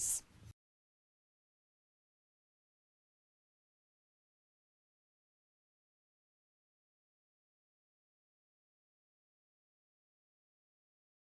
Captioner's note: no Sound Present